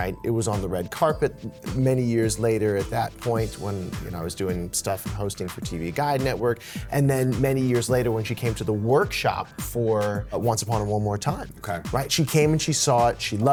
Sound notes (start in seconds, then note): none